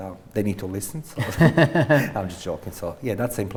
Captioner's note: laughs